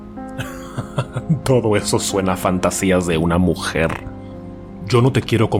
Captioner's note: laughs